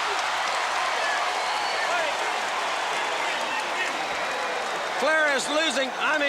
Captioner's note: crowd cheering